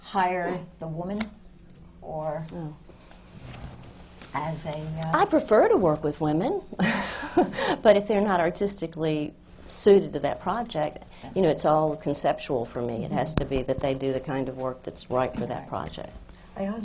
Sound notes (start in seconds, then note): 7.1 laughs